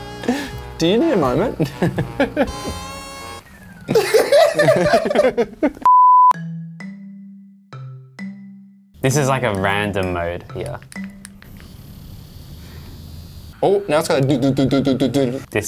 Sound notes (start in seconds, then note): 3.8 laughs; 11.1 vibrations; 14.7 impersonating vibrations